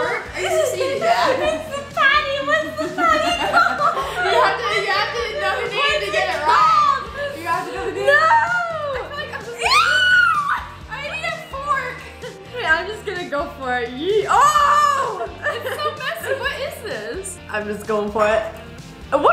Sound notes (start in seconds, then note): 1.3 laughs; 2.4 both laugh